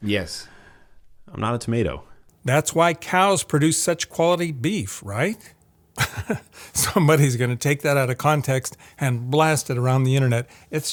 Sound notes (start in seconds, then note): 5.9 laughs